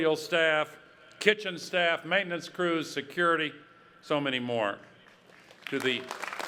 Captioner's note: clapping